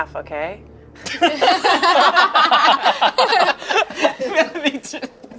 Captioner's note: everyone laughing